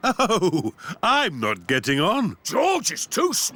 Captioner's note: chuckling